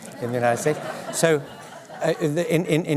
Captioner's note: laughter